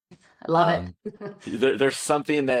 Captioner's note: chuckling